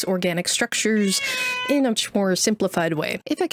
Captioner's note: cat making mosquito noises